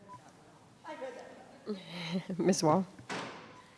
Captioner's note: faintly speaking